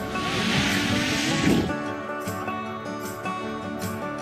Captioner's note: drone whirring